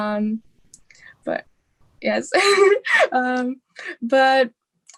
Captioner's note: laughing